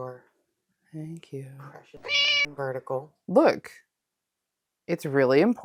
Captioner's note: meow